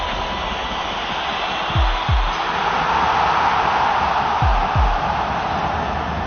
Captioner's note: crowd roaring